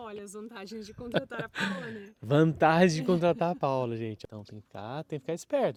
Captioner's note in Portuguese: risadas